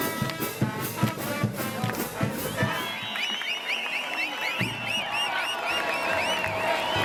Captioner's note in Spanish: Gritos, chiflidos